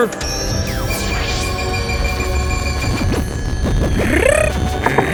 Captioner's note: beam vibrates